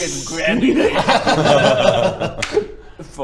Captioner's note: laughs